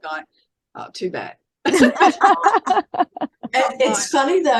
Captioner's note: everyone is laughing